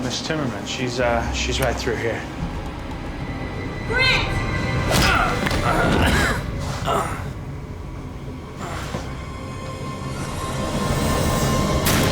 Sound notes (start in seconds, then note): 4.9 grunts; 6.8 groans